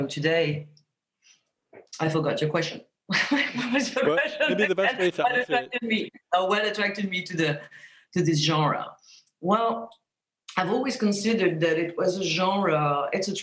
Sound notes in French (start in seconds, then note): 3.2 rire